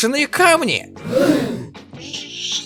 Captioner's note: gasp